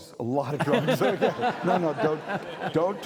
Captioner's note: audience laughing